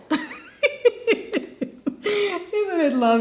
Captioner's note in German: lacht